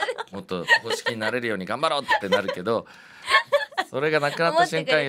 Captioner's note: laughs